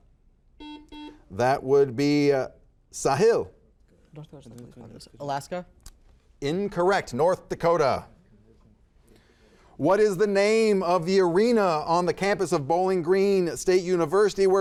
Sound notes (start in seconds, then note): 0.6 buzzer buzzes